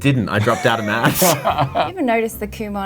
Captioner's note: both laugh